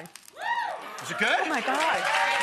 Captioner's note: audience member howls; audience clamors